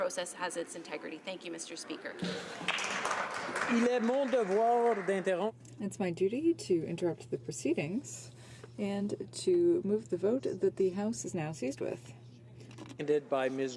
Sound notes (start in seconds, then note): 7.4 speaking French